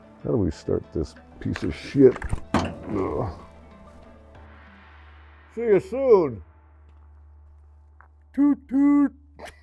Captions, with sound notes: How do we start this piece of shit? (groans) See you soon. Toot toot.